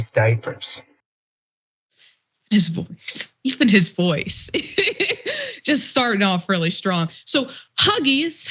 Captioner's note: laugh